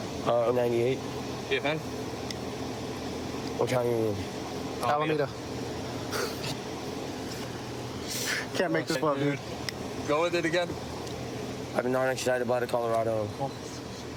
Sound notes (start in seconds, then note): 5.2 laughs